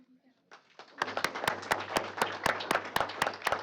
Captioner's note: applause